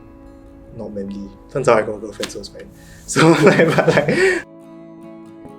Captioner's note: laughs